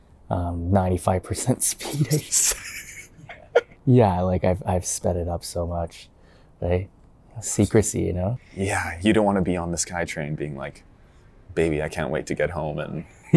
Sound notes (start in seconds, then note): 2.1 in-audible laughing